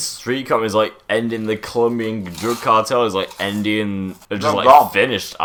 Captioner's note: munching on Doritos he confiscated from Andrew